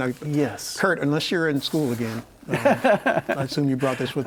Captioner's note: laughs